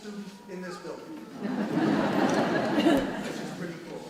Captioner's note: audience laughs